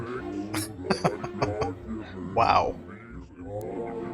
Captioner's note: chuckling